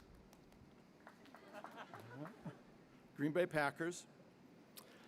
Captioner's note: light applause